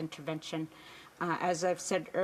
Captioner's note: speaking indigenous languag